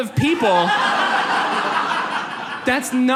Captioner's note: audience laughs